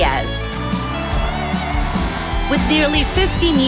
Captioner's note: audience cheering